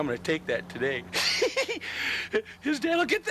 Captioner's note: giggles